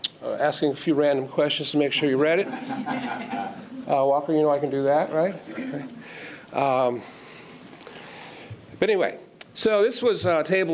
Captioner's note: laughter